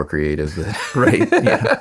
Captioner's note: laughing